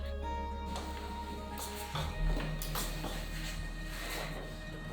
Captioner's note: footsteps clomping; gentle music